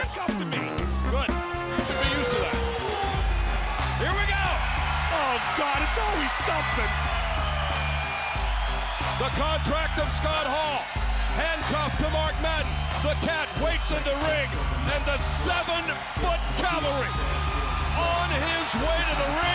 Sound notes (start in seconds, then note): 3.0 wolf howls